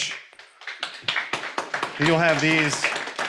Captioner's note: audience applauding